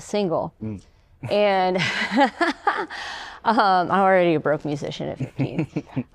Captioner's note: laughter